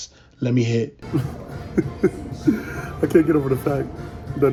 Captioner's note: laughs